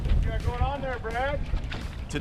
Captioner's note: water lapping